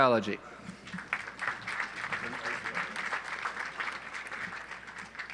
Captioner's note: audience applauds